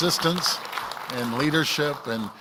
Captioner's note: applause